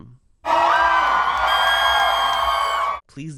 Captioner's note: crowd cheers; piercing shriek